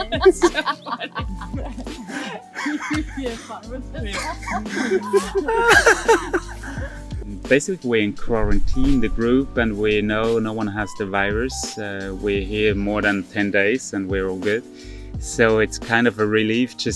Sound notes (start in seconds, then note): 0.9 laughing